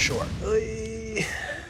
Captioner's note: groans